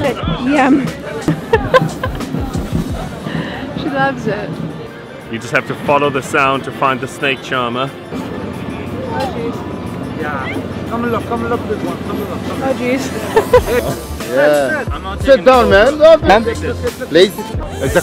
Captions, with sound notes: - More. - Yum. (laughs) She loves it. - You just have to follow the sound to find the snake charmer. (ambient music) - Come and look, come and look at this one. - Oh, geez (laughs). (ambient music) - Sit down, man.